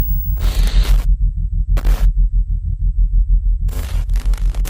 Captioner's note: graphics screaking